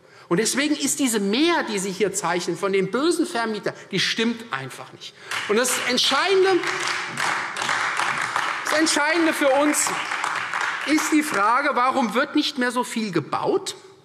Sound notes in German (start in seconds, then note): 5.2 Beifall Freie Demokraten und AfD